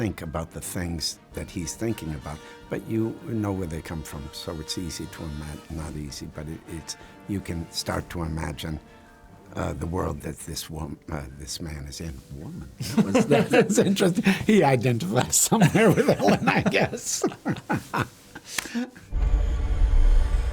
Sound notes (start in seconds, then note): 17.1 both laugh